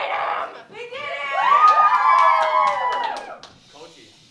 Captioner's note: Crowd cheering in Winnipeg